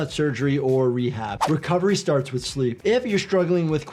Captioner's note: audio whooshes